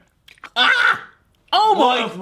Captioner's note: screams